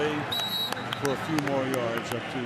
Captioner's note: whistle blows